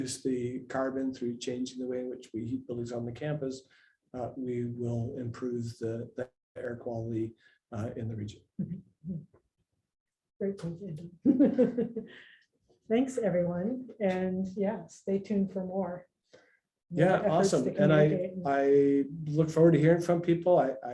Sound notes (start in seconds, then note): 11.3 laughs